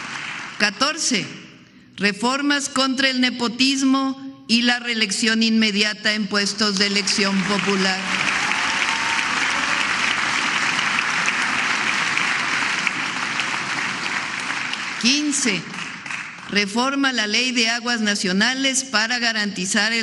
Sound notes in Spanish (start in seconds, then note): 14.1 aplausos